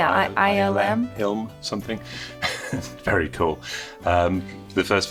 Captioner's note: laughs